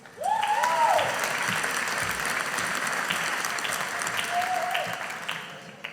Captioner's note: audience applauding